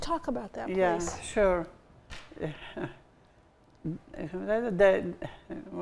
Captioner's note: chuckles